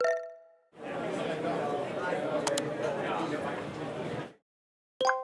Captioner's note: background chatter, mouse clicking